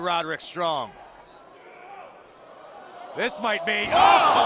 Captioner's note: crowd cheering